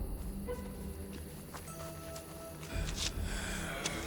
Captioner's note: raspy Breathing